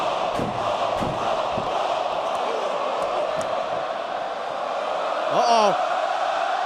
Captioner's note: fans chanting